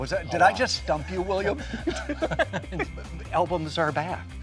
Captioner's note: laughs